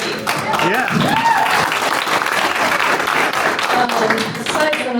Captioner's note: applause